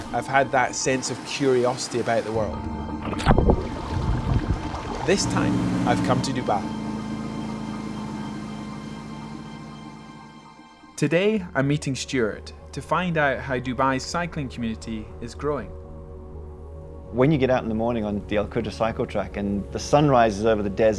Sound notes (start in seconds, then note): 3.1 splash